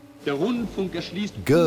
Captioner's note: speaking German